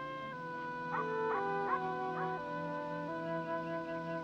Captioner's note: dog barking